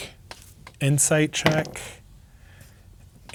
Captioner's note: dice rolling